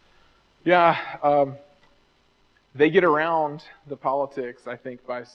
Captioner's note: sighs